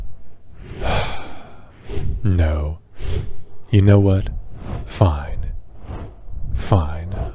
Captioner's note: sigh